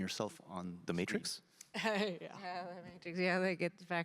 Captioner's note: chuckling